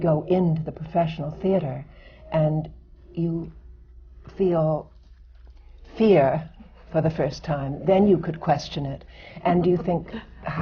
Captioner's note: laughs